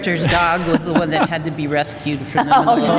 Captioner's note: laughter